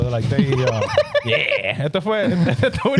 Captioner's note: laughing